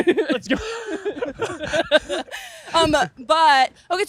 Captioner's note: laughing